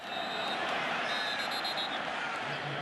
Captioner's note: whistle